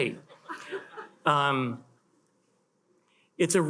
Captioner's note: attendees chuckle